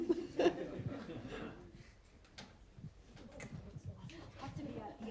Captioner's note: laughter from audience